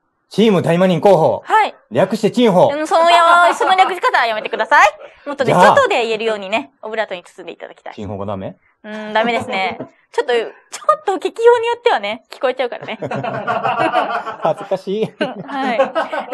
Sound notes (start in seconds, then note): 12.8 laughs